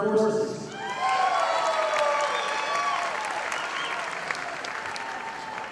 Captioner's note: audience applauding